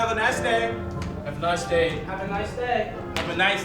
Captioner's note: snap